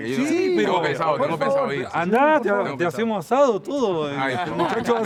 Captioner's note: in Spanish